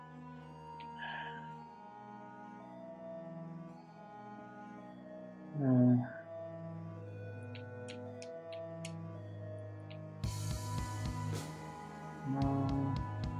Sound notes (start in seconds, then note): 0.9 sighs